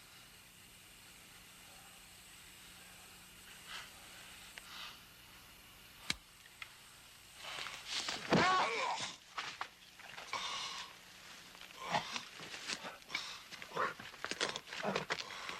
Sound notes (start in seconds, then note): 8.4 man groaning; 8.6 boot thudding